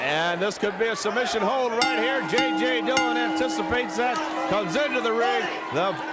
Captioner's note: bell ringing